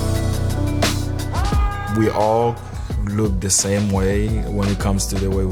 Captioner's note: upbeat chill-out music; screams